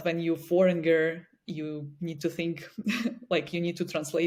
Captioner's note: chuckles